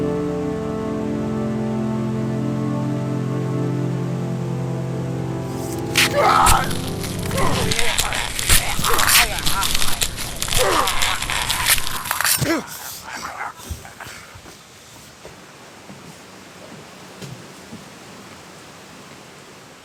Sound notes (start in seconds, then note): 0.0 solemn music continues; 5.5 victim groaning; 5.6 flesh squelching; 12.2 Tex grunts